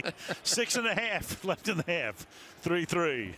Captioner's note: pa announcement